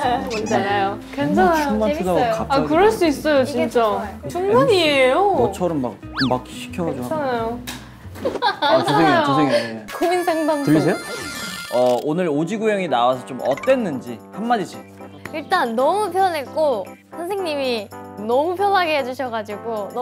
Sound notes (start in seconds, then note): 6.0 murmuring